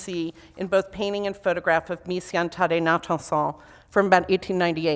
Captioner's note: foreign language